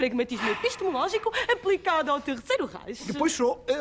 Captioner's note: none